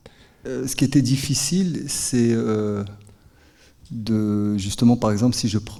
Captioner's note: speaking in French